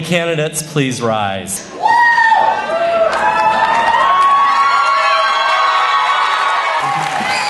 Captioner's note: cheering